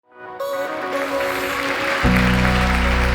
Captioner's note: applause